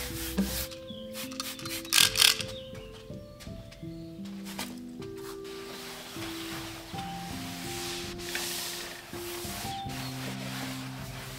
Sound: spraying, wiping clean

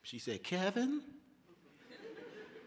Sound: laughter

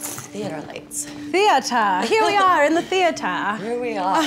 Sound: laughs

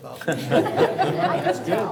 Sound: audience laughs

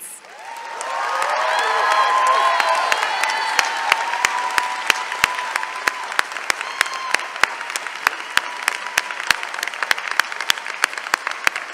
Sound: cheering and applause

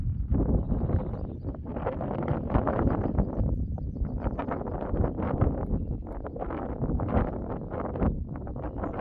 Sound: wind blowing

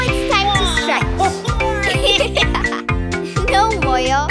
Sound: chuckling

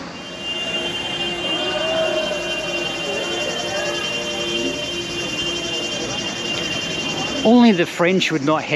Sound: car horn honks. Crowd jeers at the driver

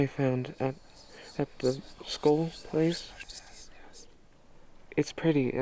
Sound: haunted whispering

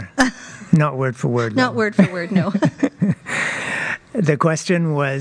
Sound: laughter

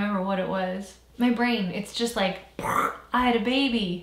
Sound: imitates explosion

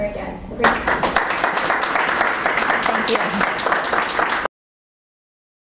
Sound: applause

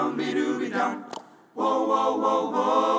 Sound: group members clicking their tongues

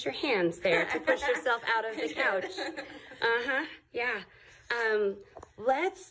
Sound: laughing

